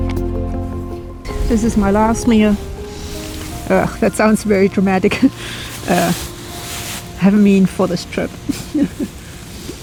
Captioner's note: laughs